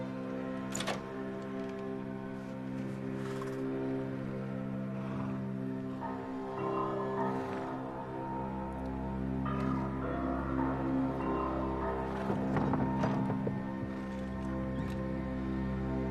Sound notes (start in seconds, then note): 11.8 coffin sliding